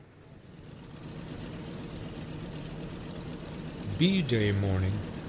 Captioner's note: aircraft engines sounding